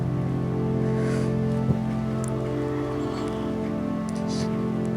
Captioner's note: Harvey shakily gasps